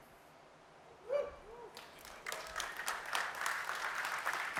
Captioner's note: applause